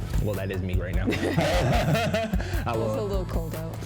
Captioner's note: both laugh